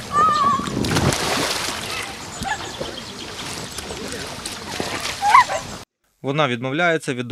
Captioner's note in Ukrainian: Падає в воду. Звуки води